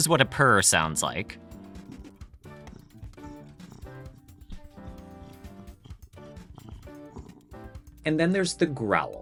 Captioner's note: cat purring